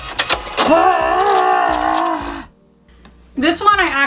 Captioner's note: sewing machine whirring and clanking; growls